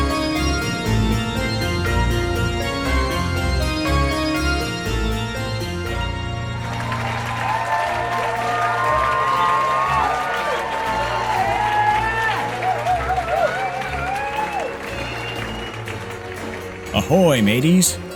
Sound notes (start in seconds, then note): 6.6 cheering